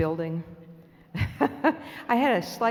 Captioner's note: laughs